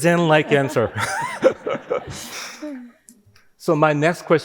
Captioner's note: all laughing